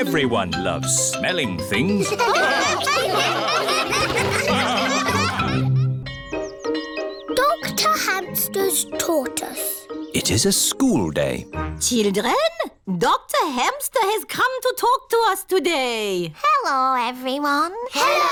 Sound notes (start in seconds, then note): 2.0 all laugh; 6.0 bell tolling